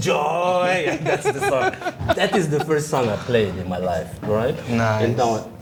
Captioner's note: laughter